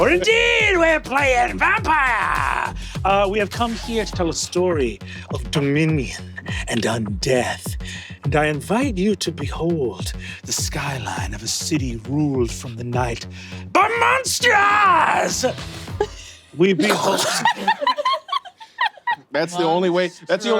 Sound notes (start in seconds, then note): 16.8 players giggling; 16.8 Lou coughs; 16.8 Ally laughs